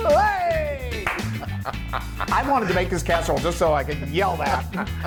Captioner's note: laugh